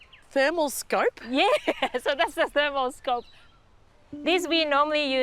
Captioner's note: chuckles